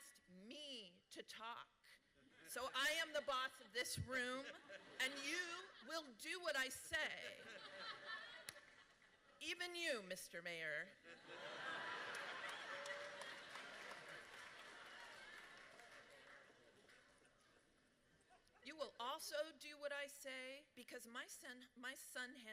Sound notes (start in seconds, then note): 7.0 laughter; 11.1 loud laughter and applause